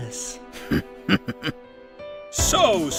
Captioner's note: knife chuckles